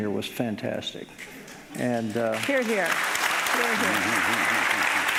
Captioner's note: audience applauding